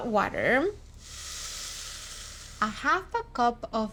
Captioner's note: sizzling